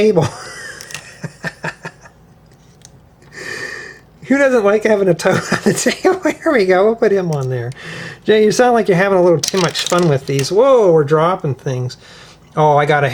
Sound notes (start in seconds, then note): 0.2 laughter; 7.8 gasps